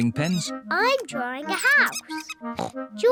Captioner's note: oinks